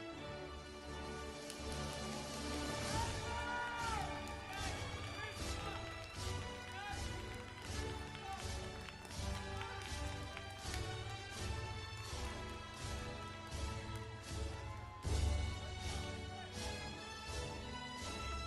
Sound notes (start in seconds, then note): 3.1 audience cheering; 13.0 processional music continues